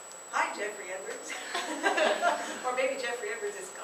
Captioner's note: laughter